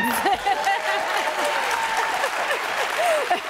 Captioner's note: applause, cheering; laughs